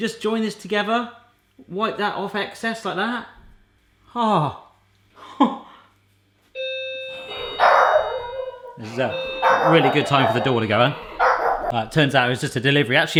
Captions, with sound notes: Just join this together. Wipe that off, excess, like that. Ah! (doorbell) (dogs barking) Really good time for the door to go, huh? Right, turns out it was just a delivery.